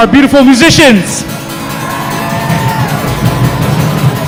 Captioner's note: applause